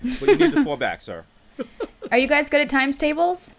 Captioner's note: laughing